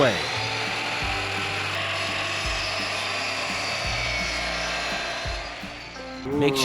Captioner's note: saw noise